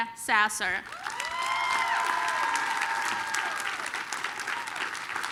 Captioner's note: applause, cheering